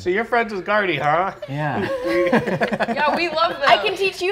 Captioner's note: chuckles